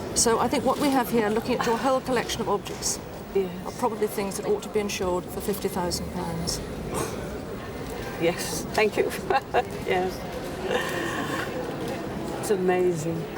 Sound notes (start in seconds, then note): 10.6 laughs